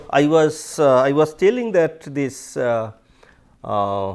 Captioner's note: steps